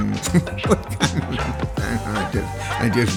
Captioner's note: laughs